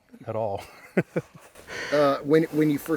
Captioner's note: chuckle